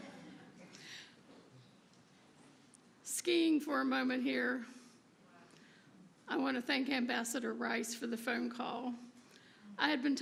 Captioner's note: laughter